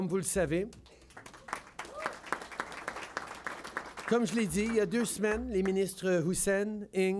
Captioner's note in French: Applaudissements